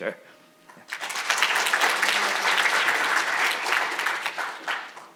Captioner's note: audience applauding